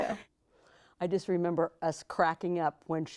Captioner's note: laughing